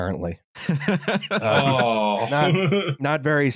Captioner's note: laughs